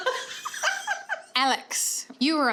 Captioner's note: laughing